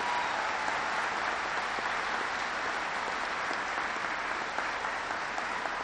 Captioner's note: applause